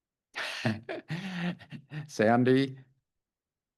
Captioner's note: laughs